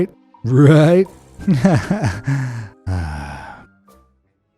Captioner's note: sigh